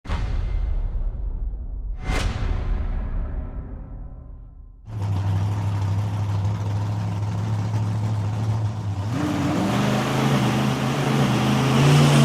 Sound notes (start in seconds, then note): 4.8 loud engine roaring